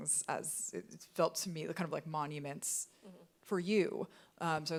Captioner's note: none